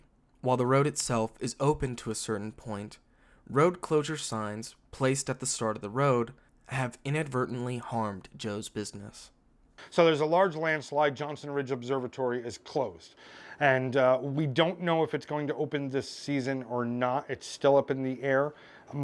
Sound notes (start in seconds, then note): none